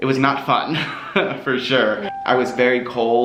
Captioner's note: laughs